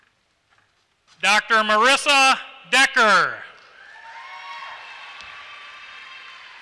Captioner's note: applause